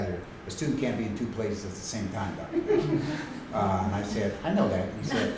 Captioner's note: laughter